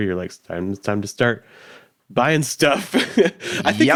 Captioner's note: laughs